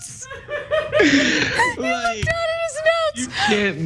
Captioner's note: laugh